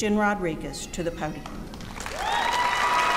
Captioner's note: applause